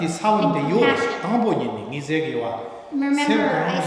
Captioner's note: speaking tibetan; speaking tibetan